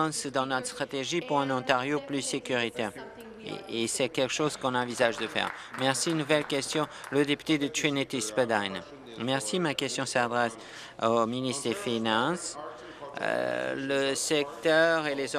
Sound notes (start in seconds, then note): 8.0 applause